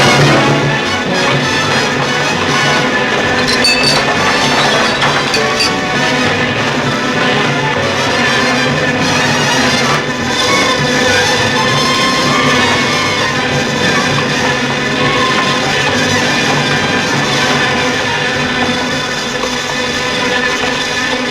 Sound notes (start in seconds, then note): 3.4 glasses breaking